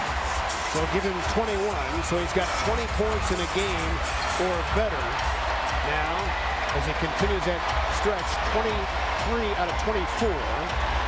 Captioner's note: cheers and applause